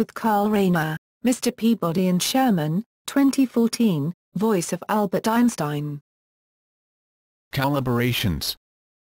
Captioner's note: voice of Albert Einstein